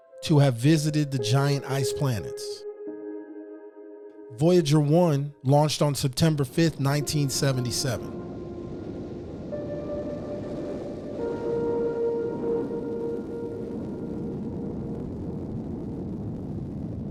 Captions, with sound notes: to have visited the giant ice planets. Voyager One launched on September 5th, 1977. (rocket engine rumbling) (gentle peaceful music)